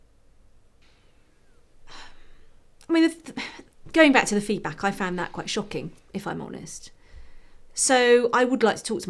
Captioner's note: sigh